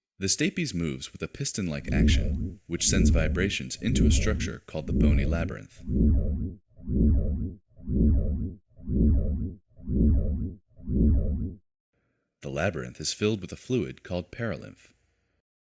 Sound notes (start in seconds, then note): 4.8 slow throbbing